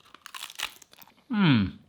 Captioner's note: kale crunches